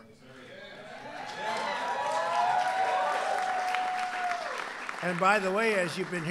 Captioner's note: applause